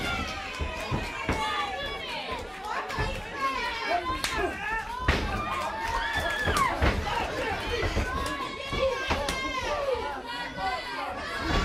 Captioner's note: crowd cheering